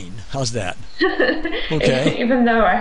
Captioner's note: laughs